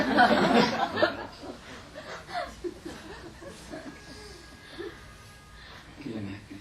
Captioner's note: audience laughter